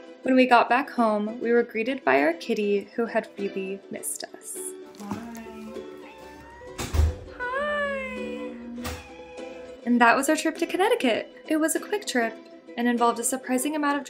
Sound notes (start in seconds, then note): 5.5 Luna meows; 7.4 Luna meows again